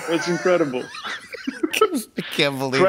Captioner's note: laughter